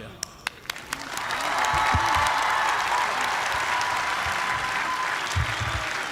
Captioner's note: cheers and applause